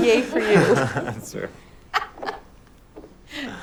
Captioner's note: chuckle